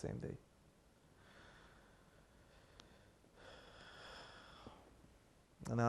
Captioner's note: sighing